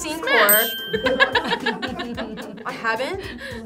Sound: laughing

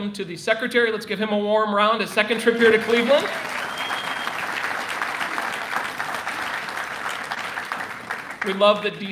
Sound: applause

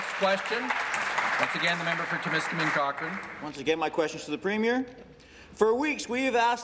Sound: applause

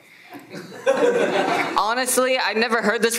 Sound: everyone laughs

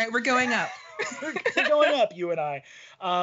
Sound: laughing

